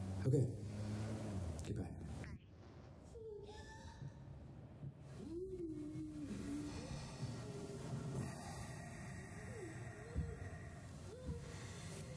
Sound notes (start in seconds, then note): 2.9 moaning; 2.9 thumping on wall